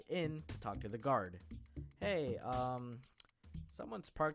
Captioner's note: tsk